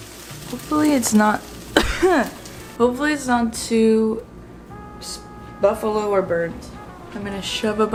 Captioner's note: coughs